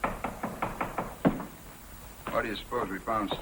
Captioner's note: knocking